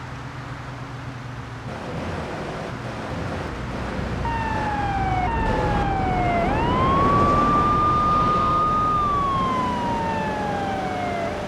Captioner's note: engine roaring